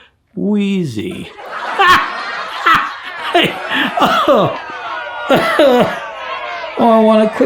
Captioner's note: laughs; canned laughter